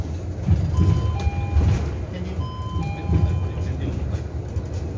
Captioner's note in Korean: 하차벨 소리